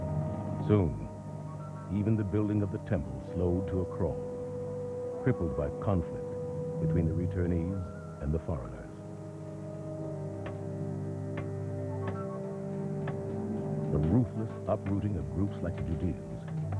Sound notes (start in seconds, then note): 10.1 hammering